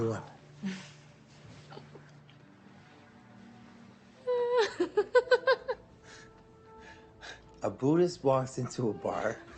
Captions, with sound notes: [Lily laughing] A Buddhist walks into a bar